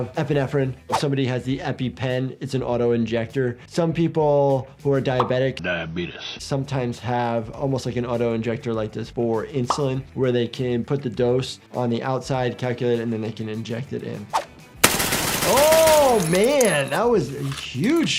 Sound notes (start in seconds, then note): 14.8 gun banging